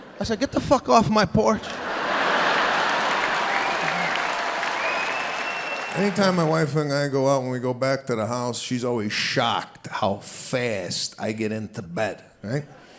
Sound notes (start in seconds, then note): 0.0 audience laughing; 1.8 audience cheering